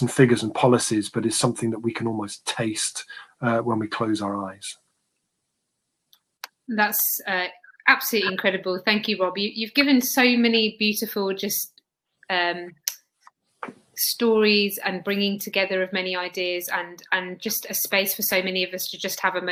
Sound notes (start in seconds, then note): 12.3 erm